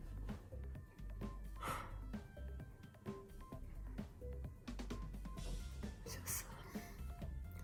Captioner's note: exhale